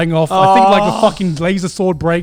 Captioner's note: groaning